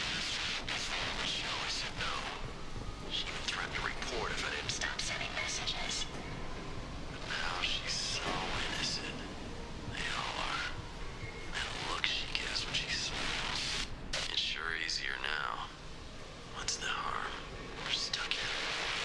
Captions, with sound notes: She threatened to report if I didn't stop sending messages. But now she's so innocent. They all are. The looks she gives when [static] [Static] sure easier now. What's the harm. We're stuck here [static]